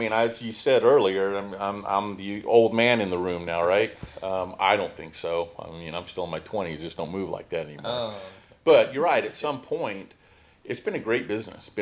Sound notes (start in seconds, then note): none